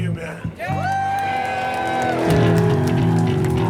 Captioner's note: audeince applaud